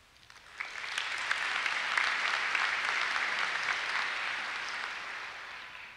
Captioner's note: applause